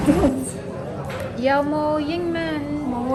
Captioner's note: in Cantonese